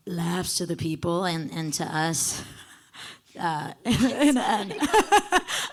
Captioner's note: faintly speaking; laughing